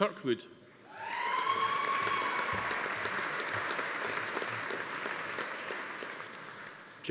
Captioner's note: attendees cheering; audience applauding